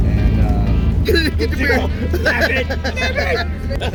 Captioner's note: giggles; laughing